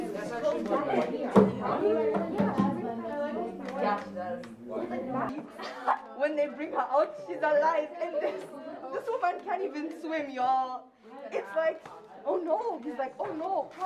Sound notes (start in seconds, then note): 5.5 laughs loudly